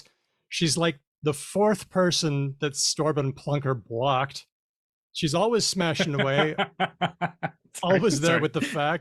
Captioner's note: laughs